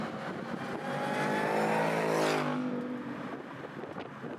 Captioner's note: engine roaring